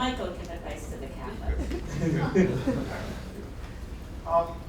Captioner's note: laughter